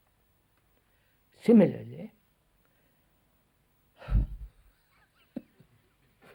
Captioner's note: laughs